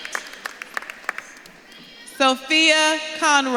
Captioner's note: audience claps and cheers